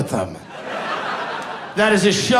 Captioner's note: audience laughing